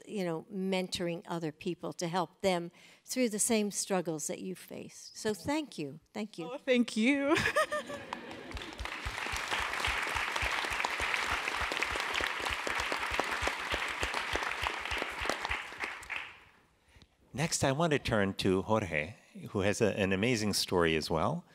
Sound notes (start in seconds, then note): 7.8 applause